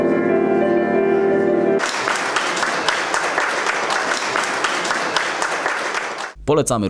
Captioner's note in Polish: oklaski